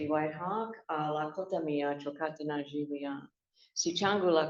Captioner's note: non-english speech